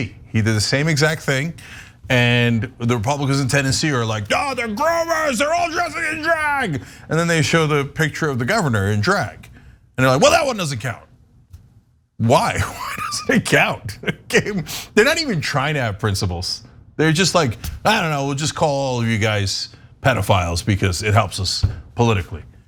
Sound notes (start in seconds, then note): 12.5 laugh